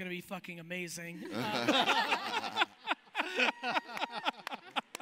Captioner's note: laughing